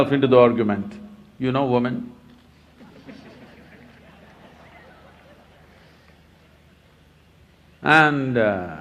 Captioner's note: laughter